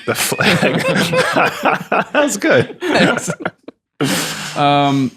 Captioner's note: laughs